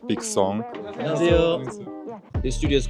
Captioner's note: speaking Korean